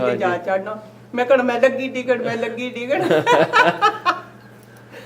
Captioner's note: laughs